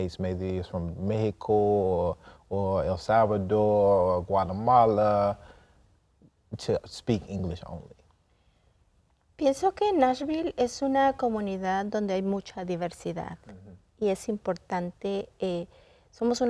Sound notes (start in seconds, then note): 9.4 speaking in Spanish